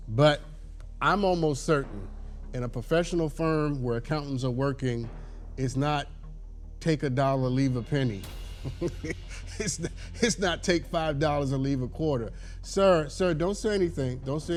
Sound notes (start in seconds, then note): 8.7 laughs